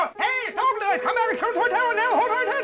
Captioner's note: excitedly shouting